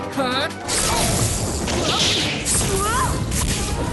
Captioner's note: shouts